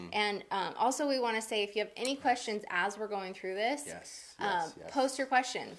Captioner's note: none